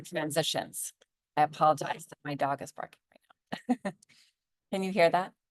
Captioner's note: chuckles